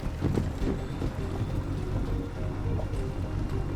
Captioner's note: engine humming